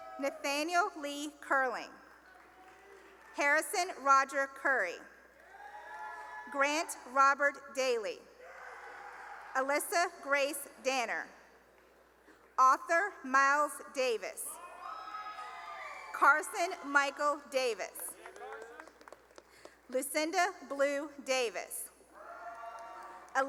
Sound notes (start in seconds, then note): 2.2 cheering and applause; 5.4 cheering; 8.5 cheering; 14.5 cheering; 18.0 cheering and applause; 22.1 cheering